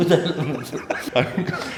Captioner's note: chuckles